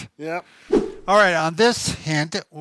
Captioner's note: whooshing sound